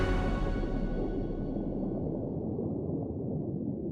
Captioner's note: water gurgling